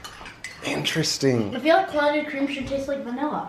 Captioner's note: silverware clacking